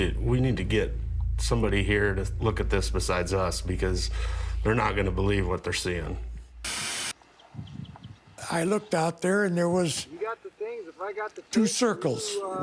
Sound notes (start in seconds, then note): 6.0 static